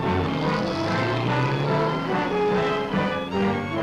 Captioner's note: engine revs